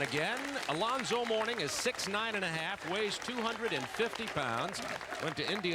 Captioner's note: applause